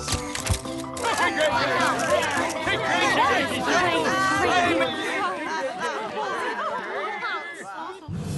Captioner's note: clamouring